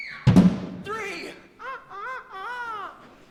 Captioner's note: Peter crows